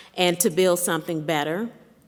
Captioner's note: none